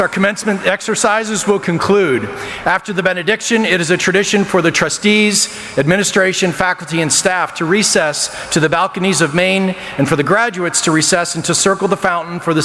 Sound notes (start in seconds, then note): none